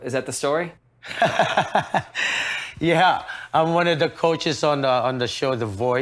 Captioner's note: laughs